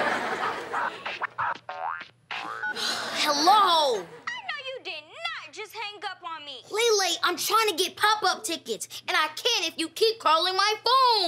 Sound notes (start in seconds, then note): 0.2 phone ringtone; 2.8 sighs